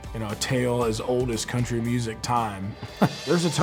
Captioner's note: laughing